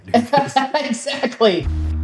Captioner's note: laughs